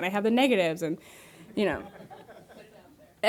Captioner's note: audience laughing